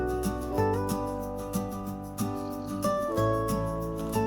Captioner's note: haha